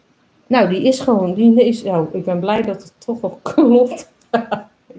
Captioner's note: laughs